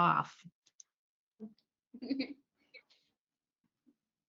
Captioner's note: chuckles